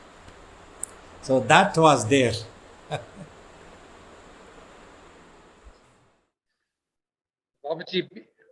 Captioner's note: laughs briefly